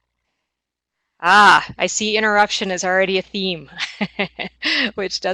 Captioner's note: chuckles